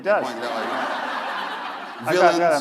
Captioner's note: laughter